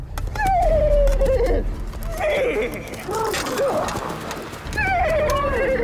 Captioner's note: whinnying